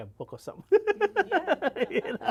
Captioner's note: laughs